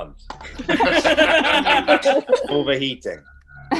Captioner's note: laughter